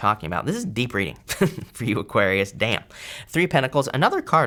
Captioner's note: laughs